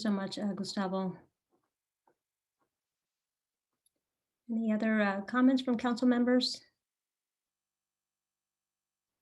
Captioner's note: silence